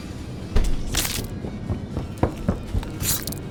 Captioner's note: door slamming; bones crushing; knife slashing